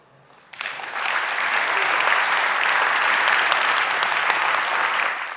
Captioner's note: crowd applauding